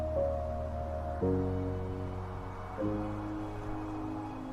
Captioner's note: wind blowing in the background